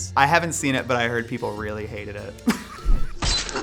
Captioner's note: chuckles